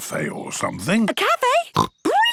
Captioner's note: snorts